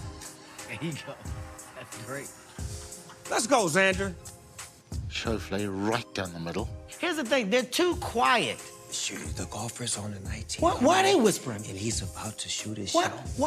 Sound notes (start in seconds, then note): 8.8 whispering